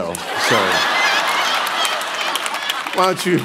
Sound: congregation laughing

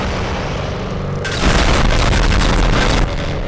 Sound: more explosions

